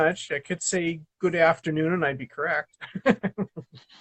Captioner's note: laughs